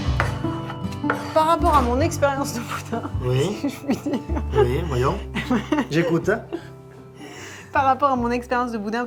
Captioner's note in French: rires